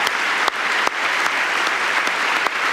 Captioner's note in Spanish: aplausos